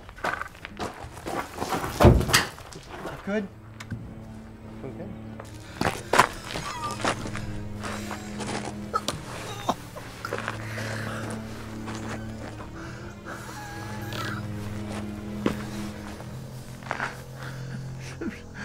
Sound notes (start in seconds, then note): 6.4 coughing